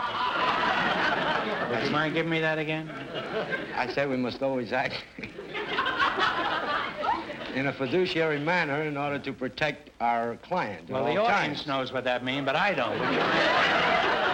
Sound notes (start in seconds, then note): 0.0 audience laughter; 4.8 laughing; 4.9 audience laughter; 12.7 audience laughter